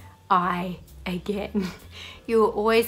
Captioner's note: laughs